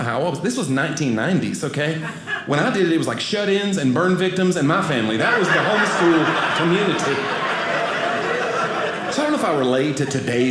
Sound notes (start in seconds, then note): 7.5 audience laughing